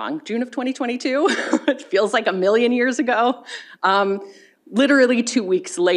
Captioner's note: chuckles